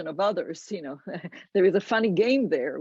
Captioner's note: laughs